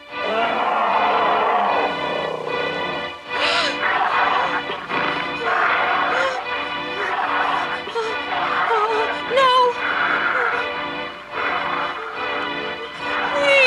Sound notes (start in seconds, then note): 0.2 ferocious roar; 3.3 gasping; 3.4 menacing growls; 9.6 growls and heavy breathing